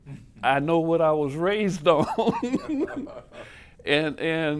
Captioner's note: laughing